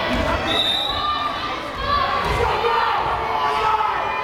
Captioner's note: whistle blares